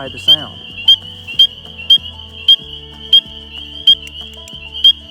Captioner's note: frog peeping loudly